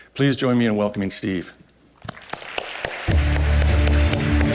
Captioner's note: applause